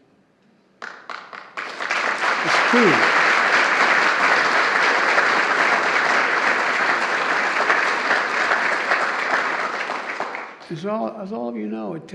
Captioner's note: applause